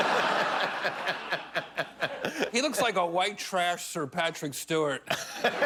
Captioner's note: laughter